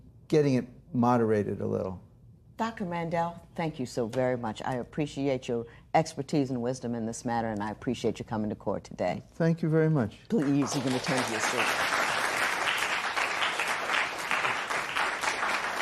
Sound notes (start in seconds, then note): 12.2 applause